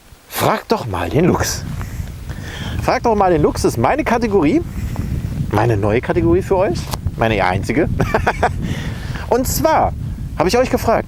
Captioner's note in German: lacht